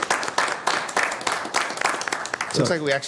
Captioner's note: applause